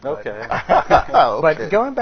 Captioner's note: all laughing